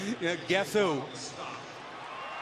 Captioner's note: chuckles; pa announcement